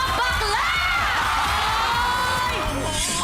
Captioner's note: audience cheering